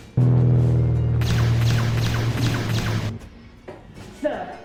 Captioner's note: laser blasts